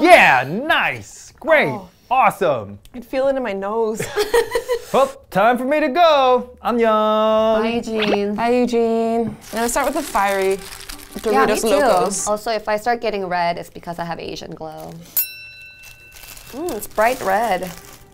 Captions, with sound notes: Yeah, nice! Great, awesome! - I can feel it in my nose. (laughing) - Time for me to go. (speaks in foreign language) - Bye, Eugene. - Bye, Eugene. I'm gonna start with the Fiery Doritos Locos. - Yeah, me too. Also if I start getting red, it's because I have Asian glow. Oh, it's bright red.